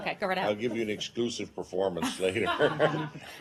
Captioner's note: laughter